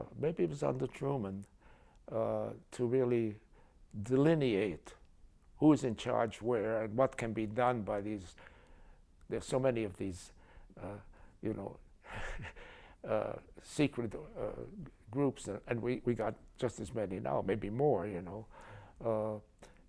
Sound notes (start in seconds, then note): 12.1 chuckles